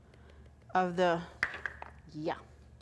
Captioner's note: lid drops